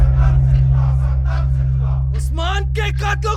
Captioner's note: chanting